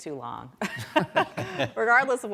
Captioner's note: laughter